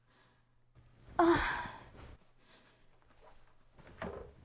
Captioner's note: moans